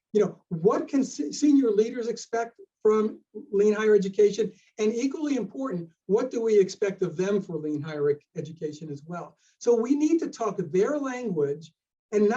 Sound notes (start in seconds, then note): none